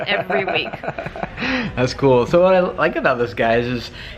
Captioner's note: laughs